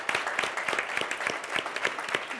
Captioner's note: applause